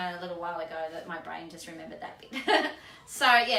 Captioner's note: laughs